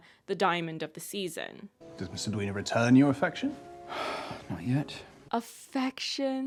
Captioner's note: sights